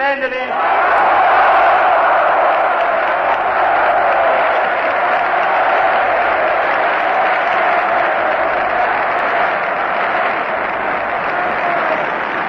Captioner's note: applause, Screams: "Yes!"